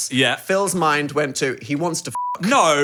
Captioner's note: beep